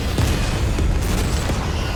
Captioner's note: loud explosions